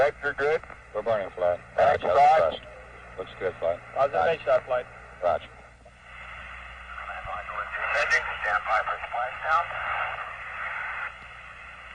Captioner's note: talking over radio